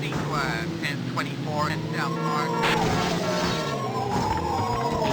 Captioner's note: police radio chatter